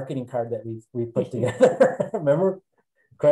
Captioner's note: laughing